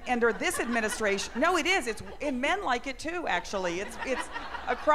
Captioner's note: laughter